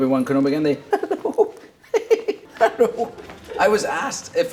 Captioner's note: giggling